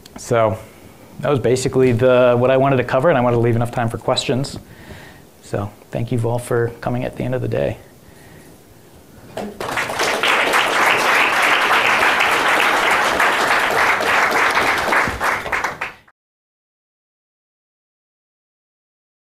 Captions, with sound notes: So that was basically what I wanted to cover and I wanted leave enough time for questions. So thank you all for coming at the end of the day. (audience clapping)